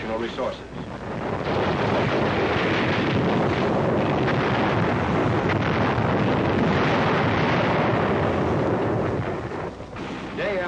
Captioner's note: artillery firing